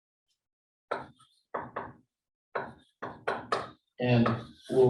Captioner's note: chalkboard tapping loudly